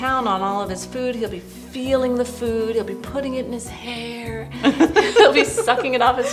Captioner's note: laughter